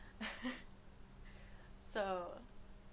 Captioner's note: laughs